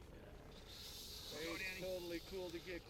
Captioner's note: reel whining